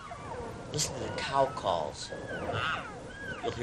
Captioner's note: cows calling